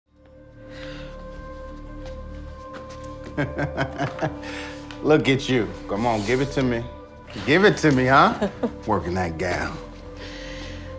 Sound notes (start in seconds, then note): 3.3 laughs; 7.9 laughs